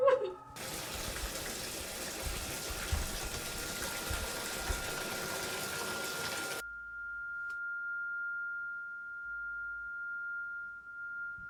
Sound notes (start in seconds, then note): 0.5 shower pattering